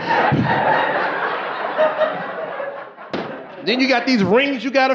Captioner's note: gasping